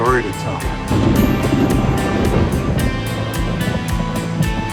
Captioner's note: thunder